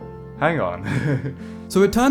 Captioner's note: chuckles